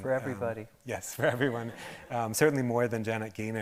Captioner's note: audience laughing